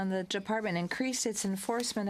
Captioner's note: speaking french